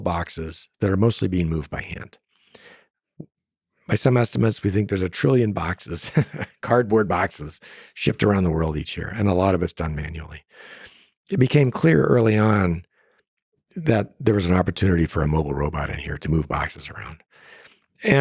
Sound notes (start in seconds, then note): 6.1 laughs